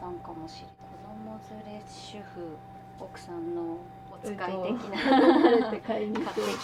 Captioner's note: laughter